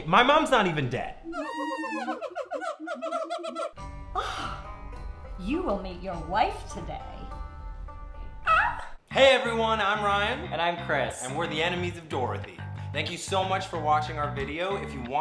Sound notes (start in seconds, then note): 1.2 monkeys laughing; 8.1 squeak